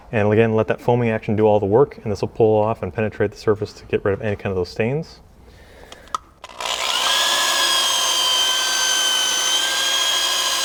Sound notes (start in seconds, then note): 6.5 high-pitched drilling